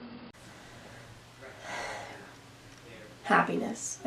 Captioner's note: sighs